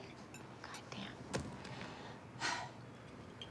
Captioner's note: sighs